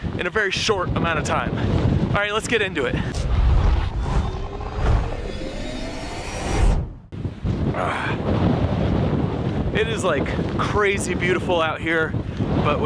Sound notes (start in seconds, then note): 3.0 graphics whooshing